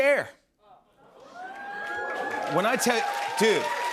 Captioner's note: cheers and applause